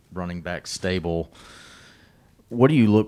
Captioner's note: deep breath